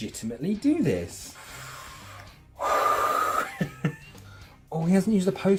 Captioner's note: inhales and exhales with excitement - plus nervous chuckle